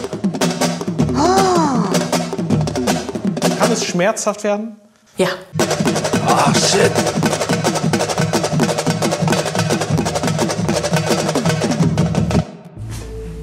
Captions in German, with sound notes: (Trommelmusik) (Schreckenslaut) Kann es schmerzhaft werden? - Ja. Oh, shit. (Trommelmusik)